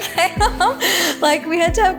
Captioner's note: Maria laughing